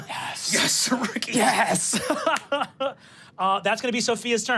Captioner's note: chuckles